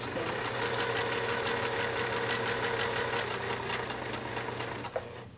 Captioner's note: sewing machine churning